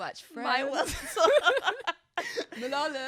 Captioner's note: both laughing